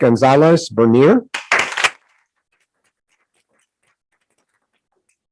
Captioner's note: group applauding